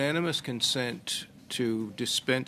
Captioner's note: speaking French